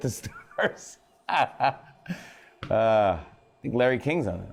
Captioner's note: laughs